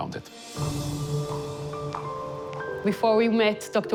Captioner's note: footsteps pattering